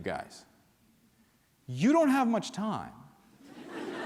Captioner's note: laughter